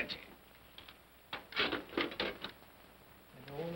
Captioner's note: coal pellets clatter